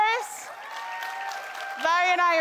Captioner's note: attendees cheering and clapping